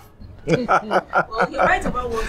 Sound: laughs

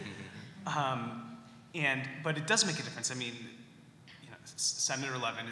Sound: laughter

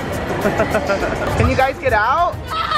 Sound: laughing

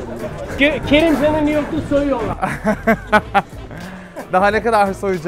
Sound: laughs

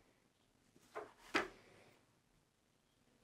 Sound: thump

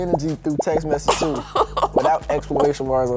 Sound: laughs

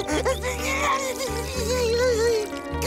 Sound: crying

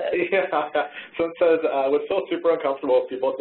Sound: laughs

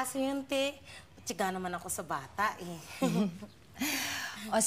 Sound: chuckles

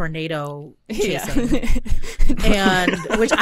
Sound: group laughing

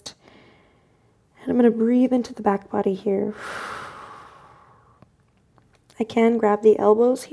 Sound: exhales

